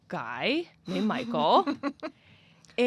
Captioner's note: laughs